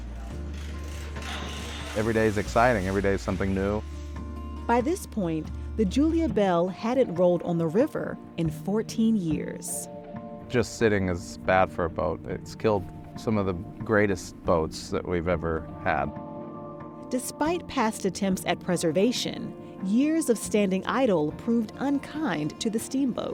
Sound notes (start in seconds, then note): 0.2 ratchet clicking